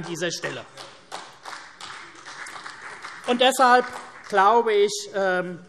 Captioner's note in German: Vereinzelter Beifall CDU